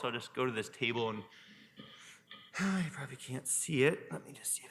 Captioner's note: sighs